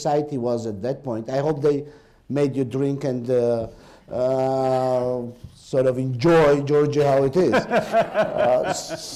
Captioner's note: laughter